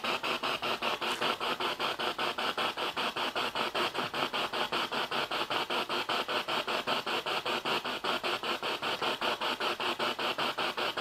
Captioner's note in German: Noise of the spiritbox in the background